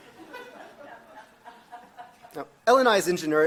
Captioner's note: audience laughs